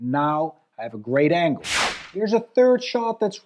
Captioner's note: air whooshing